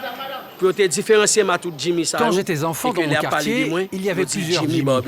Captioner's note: French spoken audio